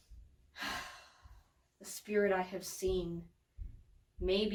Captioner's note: sighs deeply